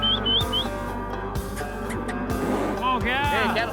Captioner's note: whistles